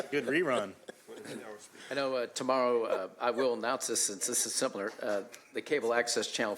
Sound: laughter

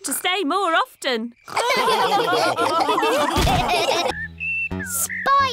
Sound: all laughing

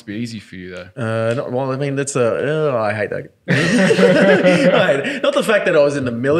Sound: laughing

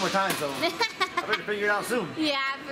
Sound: laughs

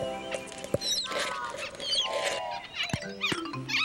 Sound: squirrels Chattering

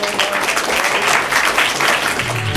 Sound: applause

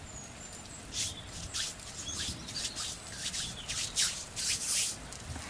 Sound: hands rubbing

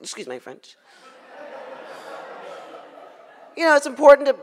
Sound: audience laughs

